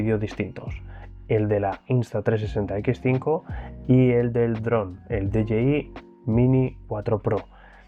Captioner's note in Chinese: 英语